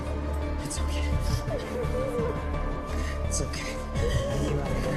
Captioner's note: SInghiozzando